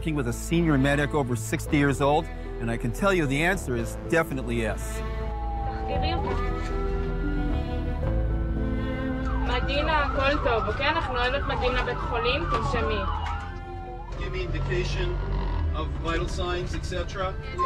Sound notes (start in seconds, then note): 6.3 medic speaking foreign language